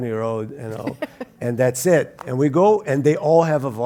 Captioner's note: laugh